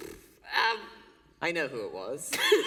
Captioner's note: laughter